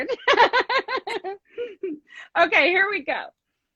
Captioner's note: laughs